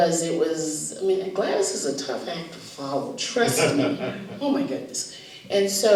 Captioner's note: laughter